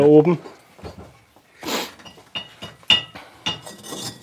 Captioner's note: sniffles